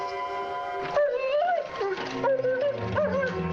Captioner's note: Jojo whimpering